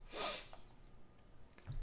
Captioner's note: sniff